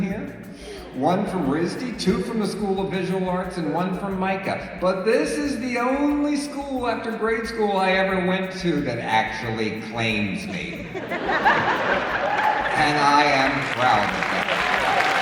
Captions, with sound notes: here, one from RISD, two from the School of Visual Arts and one from MICA, but this is the only school after grade school I ever went to that actually claims me, [laughter] and I am proud of that. [Applause.]